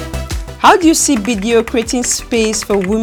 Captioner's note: upbeat music; keys typing